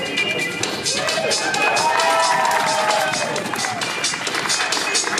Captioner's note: audience applauding